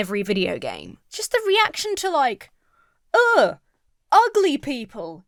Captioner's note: imitates gamer scoffing